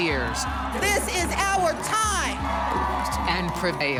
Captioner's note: cheers and applause